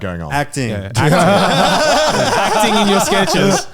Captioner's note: all laughing